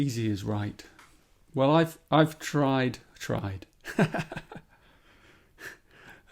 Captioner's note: laughs